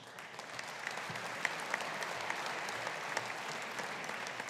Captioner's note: audience applauding